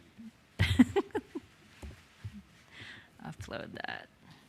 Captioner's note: laughs